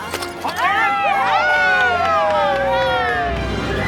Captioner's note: group cheers